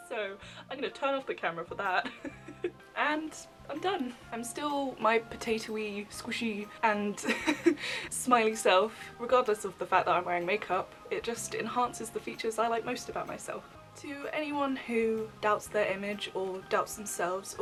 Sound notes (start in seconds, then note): 2.0 laughs; 7.2 laughs